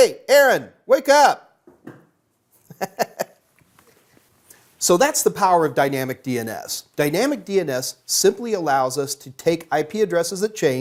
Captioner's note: laughing softly